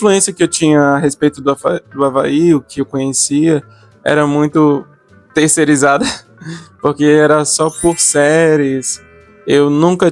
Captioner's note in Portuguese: risadas